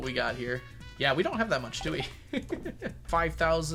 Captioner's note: laughs